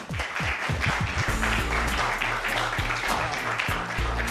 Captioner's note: applause